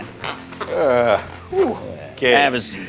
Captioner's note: exhales